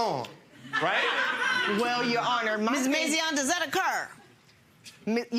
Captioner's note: audience laughing